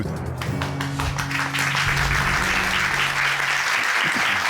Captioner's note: audience applauding